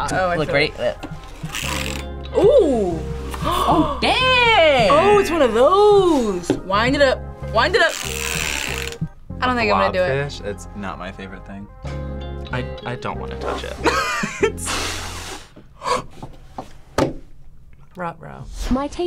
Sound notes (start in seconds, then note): 2.9 gasps; 8.4 blobfish clicks; 13.8 laughs; 14.5 blows; 15.8 gasps